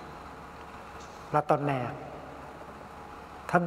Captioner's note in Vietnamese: Tiếng Pháp